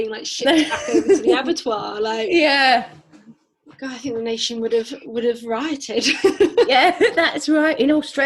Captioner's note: laughs